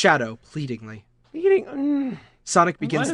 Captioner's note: moans